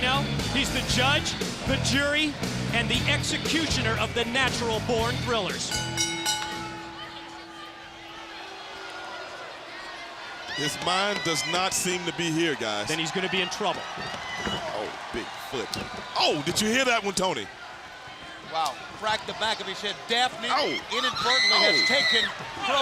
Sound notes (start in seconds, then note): 5.5 bell ringing